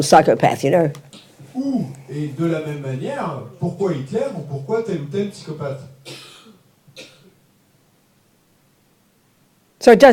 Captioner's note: French